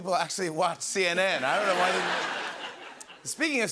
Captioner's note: laughter